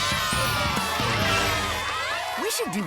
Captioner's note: poof!